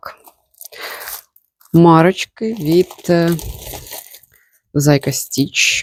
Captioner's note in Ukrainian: сопіння